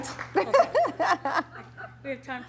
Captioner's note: laughs